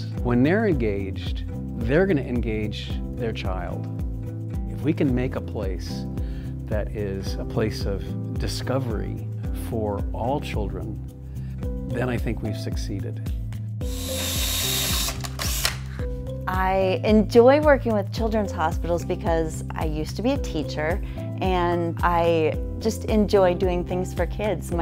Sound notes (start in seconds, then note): 13.8 drill whirling